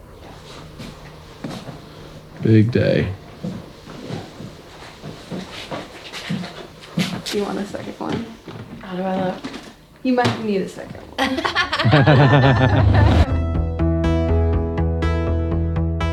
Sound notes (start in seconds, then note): 11.1 laughing; 13.5 upbeat music